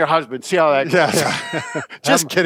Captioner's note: both laughing